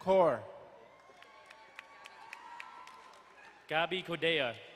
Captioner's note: crowd cheering and applauding